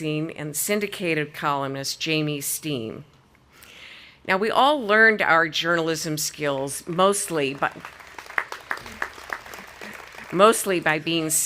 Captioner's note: audience applauding